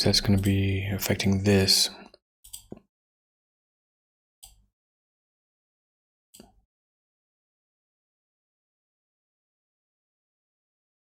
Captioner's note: blank Audio